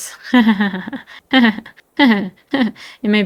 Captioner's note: laughs awkwardly